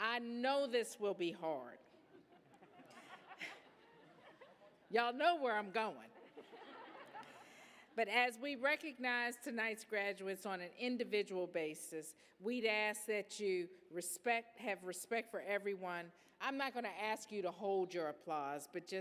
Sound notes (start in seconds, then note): 1.9 laughter; 6.1 laughter